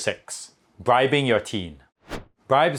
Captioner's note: scene change whooshing